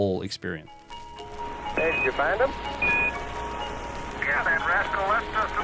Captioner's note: two-way radio transmission